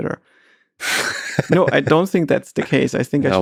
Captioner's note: Lex laughing